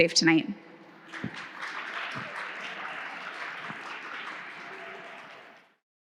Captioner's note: audience clapping hands